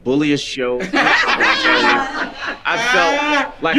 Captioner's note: group laughing